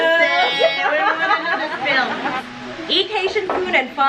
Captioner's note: laughs